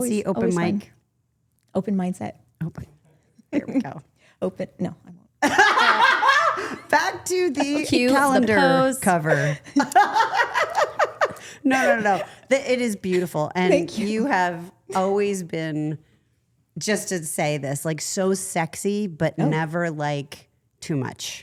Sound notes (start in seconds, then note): 5.5 laughs; 9.5 Stephanie laughs